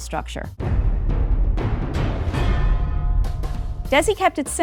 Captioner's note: dramatic thumping